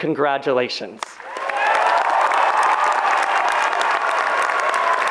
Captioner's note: audience applauds